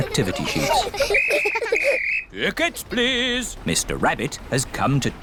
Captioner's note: blows whistle